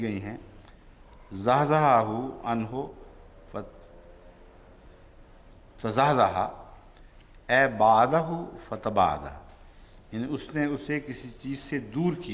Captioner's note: Arabic